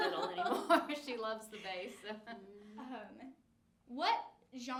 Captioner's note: laughs; laughing; laughs